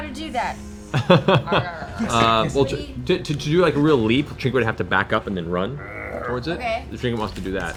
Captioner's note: laughs